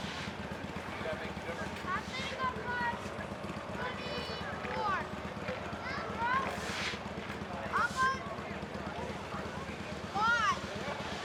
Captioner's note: crowd chattering